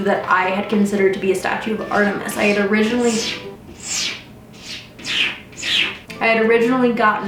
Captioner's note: cat scrapes litter again